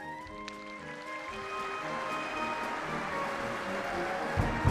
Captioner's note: applause